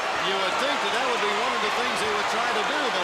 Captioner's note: crowd chatter